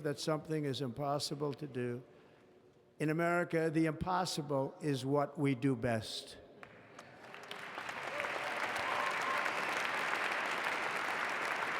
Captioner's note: applause